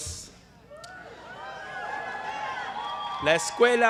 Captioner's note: applause